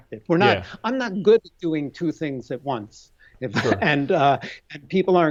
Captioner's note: laughs